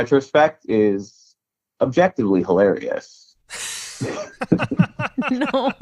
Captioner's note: laughs